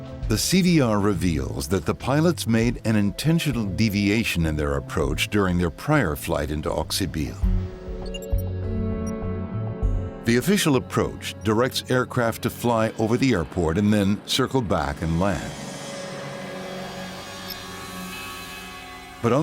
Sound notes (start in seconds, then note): 7.9 beeping; 8.4 sinister music; 15.9 sinister music